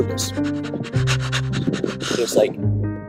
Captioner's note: dog panting